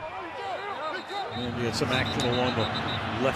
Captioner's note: shouting